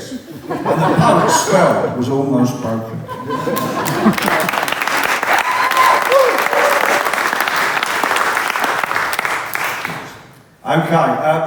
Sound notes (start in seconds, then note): 6.8 cheers & applause